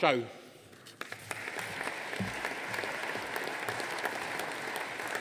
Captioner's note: audience applauding